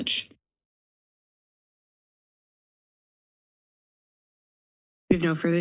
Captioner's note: silence